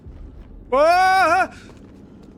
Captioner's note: screams